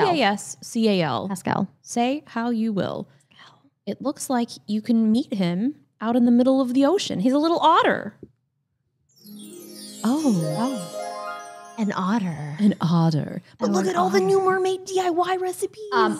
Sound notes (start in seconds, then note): 9.1 chimes ringing